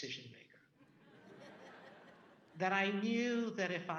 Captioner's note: audience laughing